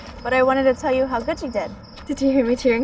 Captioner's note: none